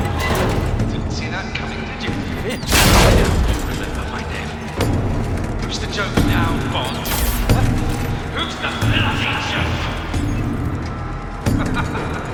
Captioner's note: laughter